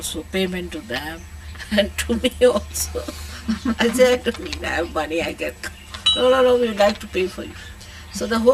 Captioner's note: shree mataji laughs